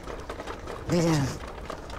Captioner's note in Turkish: Kağnı Sesleri